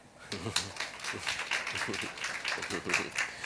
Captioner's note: applause